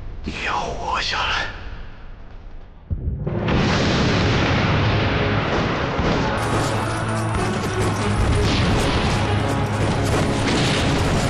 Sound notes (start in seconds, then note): 2.8 explosion; 8.6 bombing